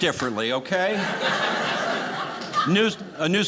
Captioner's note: audience laughing